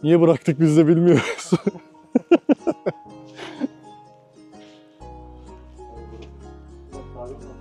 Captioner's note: laughter